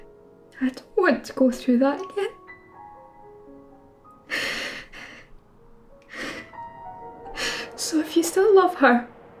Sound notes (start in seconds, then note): 4.3 crying